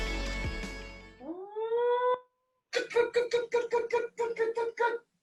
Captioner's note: vocal sounds being made with movement